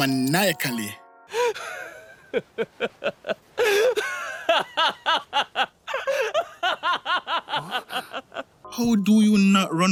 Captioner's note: maniacal Laughter